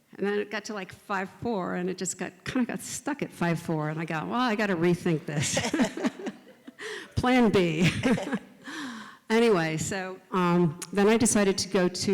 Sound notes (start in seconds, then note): 5.1 laugh; 7.8 both continue to laugh